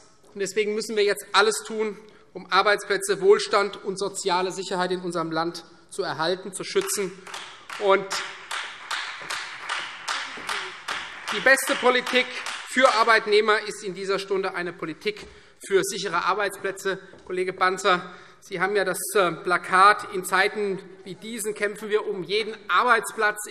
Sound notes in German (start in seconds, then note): 6.7 Beifall Freie Demokraten